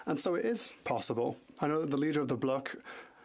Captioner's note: speaking French